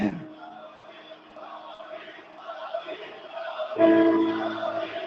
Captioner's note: crowd Chants